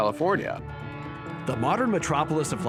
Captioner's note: train horn blows